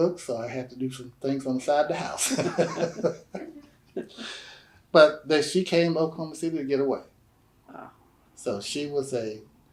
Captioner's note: laughter